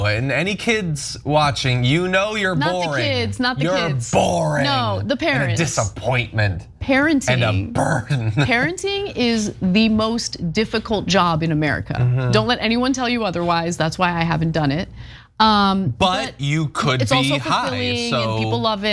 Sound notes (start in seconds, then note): 7.4 laugh